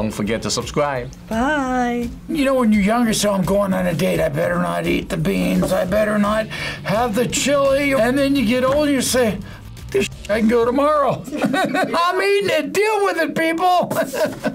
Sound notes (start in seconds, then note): 11.1 laughs; 14.1 laughs